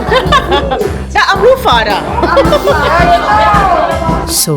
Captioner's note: speaking German; laugh